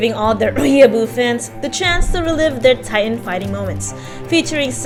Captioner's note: cough